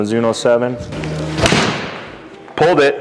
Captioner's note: club thuds